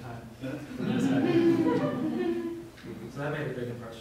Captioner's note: laughter